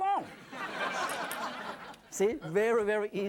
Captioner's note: audience laughs